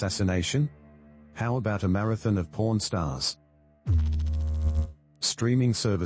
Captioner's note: electrical noise